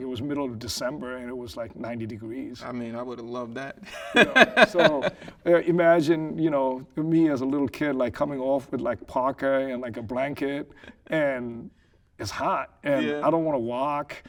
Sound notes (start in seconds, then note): 3.9 laughing